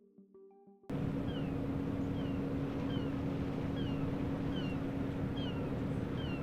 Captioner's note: ferry engine; birds squawking